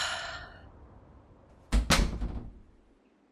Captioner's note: door closes